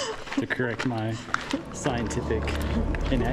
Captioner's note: laughs